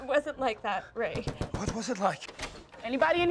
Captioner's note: loud knocking